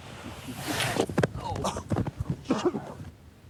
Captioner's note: board scraping; body slamming; Lance coughing